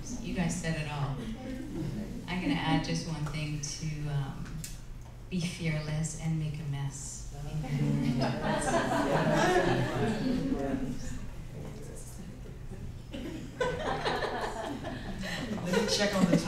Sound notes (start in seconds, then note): 7.8 laughter